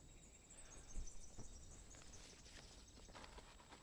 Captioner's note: birds chirping